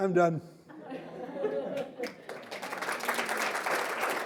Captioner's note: audience laughing and applauding